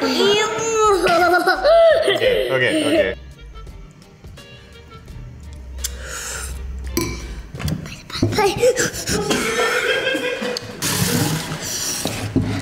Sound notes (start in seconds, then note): 0.9 laughs; 8.5 pants; 9.2 dad laughs